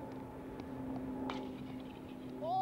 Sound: bat cracking

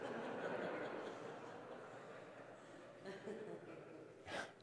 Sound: congregation laughing

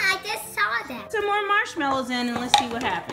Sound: voiceover

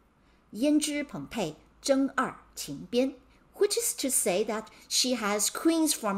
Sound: speaking in Mandarin

